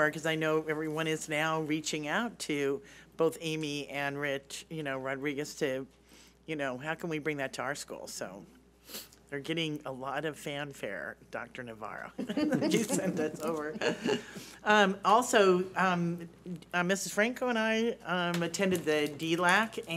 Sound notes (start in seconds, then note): 12.2 laughing